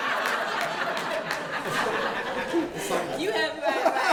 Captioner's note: laughter